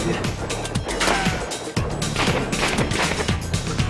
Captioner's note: bullet ricocheting; guns firing